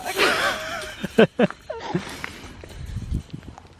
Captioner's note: laughing